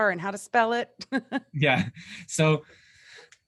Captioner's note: chuckles